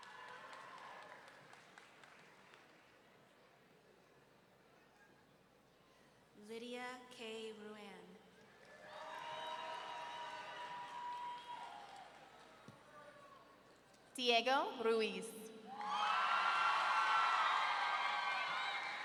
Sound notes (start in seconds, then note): 0.2 audience member clapping; 8.8 audience cheering; 15.7 audience cheering